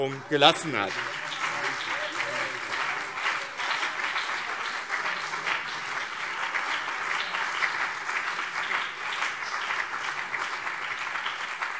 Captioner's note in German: Beifall BÜNDNIS 90/DIE GRÜNEN und CDU - Zurufe SPD